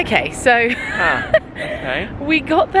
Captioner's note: laughs